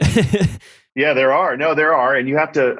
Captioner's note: laughs